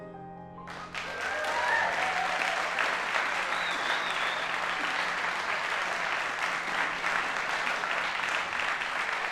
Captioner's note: applause